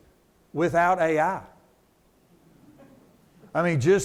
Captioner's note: attendee chuckles